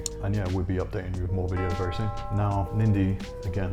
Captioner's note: bell dinging